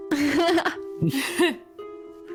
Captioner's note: laughs